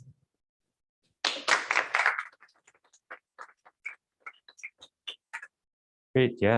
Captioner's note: applause